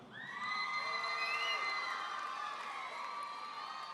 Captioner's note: audience cheering